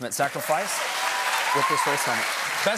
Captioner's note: cheers and applause